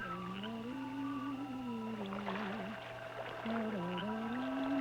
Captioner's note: splashing